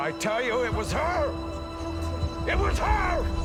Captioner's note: crowd murmuring